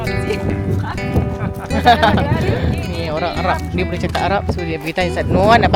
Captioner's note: laugh